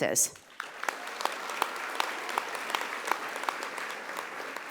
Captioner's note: audience applauding